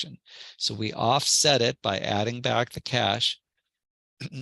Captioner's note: cough